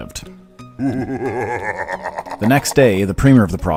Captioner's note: sinister laughing